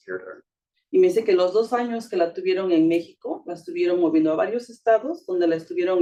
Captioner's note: speaking Spanish